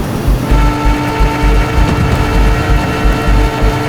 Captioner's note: flatbed whirring